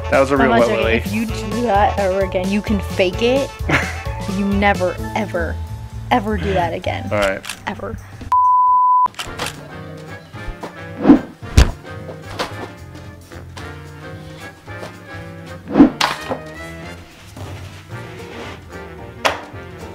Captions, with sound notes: - That was a real wet willie. - If you do that ever again, you can fake it. You never ever, ever do that again. - Alright. - Ever. (beep) (upbeat music)